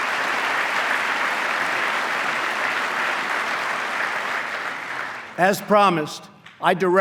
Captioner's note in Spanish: aplauso